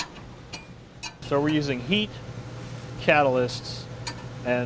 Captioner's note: voiceover